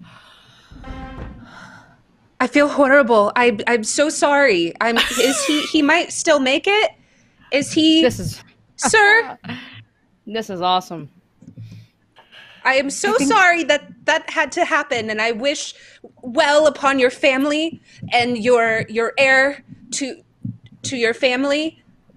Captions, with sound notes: - I feel horrible. I, I'm so sorry. (laughing) Is he, he might still make it. Is he, sir? - This is, this is awesome. - I am so sorry that that had to happen, and I wish well upon your family and your, your heir to, to your family.